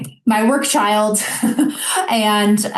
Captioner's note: chuckling